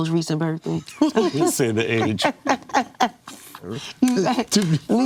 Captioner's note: laughing